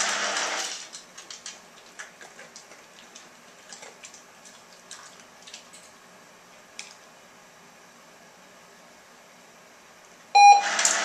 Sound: beep!Grinding sound

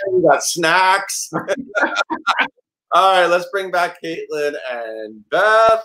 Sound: laughs

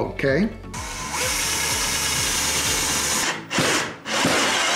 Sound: drill buzzing

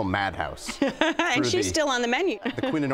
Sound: laughs

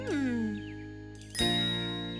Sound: ding!

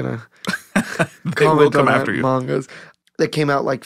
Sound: laughing

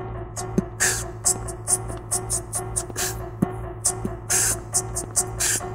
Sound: beatboxing

